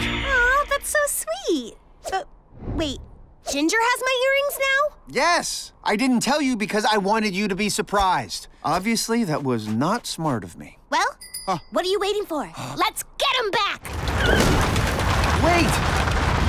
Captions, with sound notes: Aww, that's so sweet! But... wait. Ginger has my earrings now? Yes! I didn't tell you because I wanted you to be surprised. Obviously that was not smart of me. -Well, what are you waiting for? -[bicycle bell rings] Let's get 'em back! Wait.